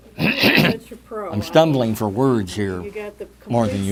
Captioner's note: clears throat